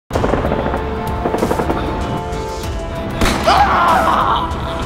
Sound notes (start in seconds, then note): 0.1 machine gun sounds; 1.0 screaming